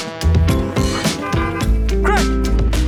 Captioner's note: car horn honks